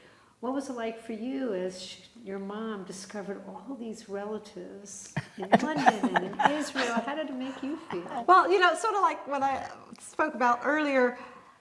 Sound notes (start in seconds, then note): 5.2 laughing